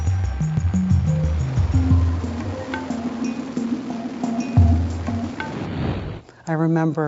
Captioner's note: helicopter whirring